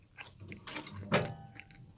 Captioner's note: clunk